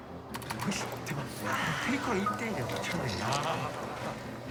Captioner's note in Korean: 카메라 셔터 소리